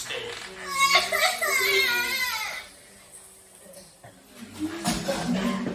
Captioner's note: baby loudly crying